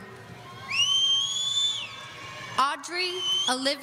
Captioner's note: audience member whistling